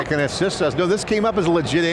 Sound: laughs

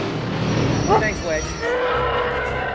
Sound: engines roaring; bark

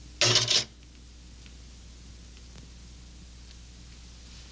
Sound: harmonica clattering

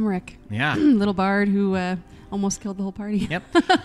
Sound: laughs

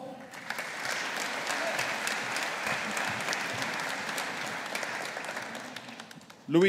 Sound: audience applauding

